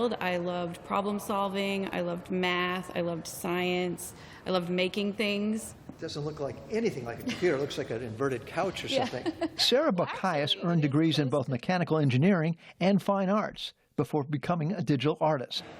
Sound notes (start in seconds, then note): 8.8 laughter